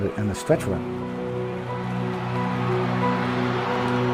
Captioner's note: crowd cheering; piano music